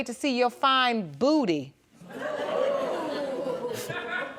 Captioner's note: audience gasping and giggling